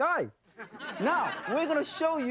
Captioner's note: audience laughter